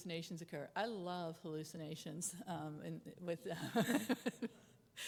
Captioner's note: chuckles